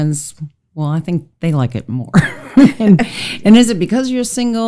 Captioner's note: laughs